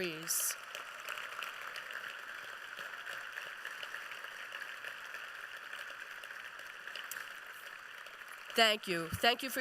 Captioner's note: applause